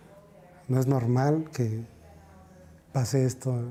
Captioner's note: speaking alternate language